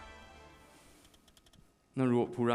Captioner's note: typing